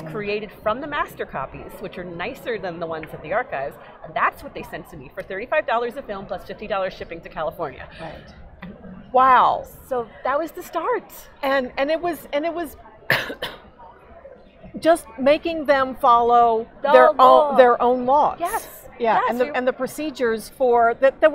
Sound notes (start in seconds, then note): 13.0 coughing